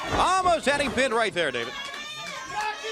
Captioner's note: crowd cheering